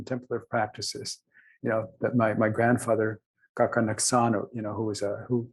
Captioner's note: non-english